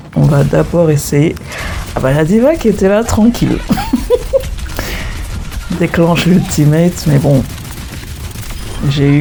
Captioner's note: laughs